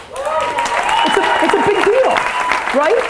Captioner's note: applause